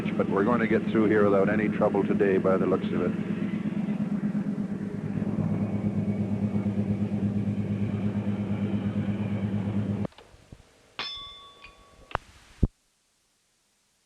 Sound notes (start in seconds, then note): 4.5 sound of train moving; 11.0 bell Sound